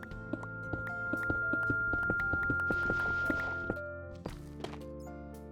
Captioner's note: high pitched noise fades in, then out